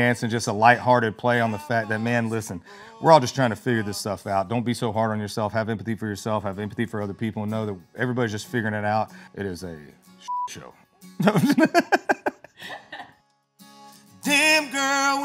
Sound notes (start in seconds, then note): 11.2 laughs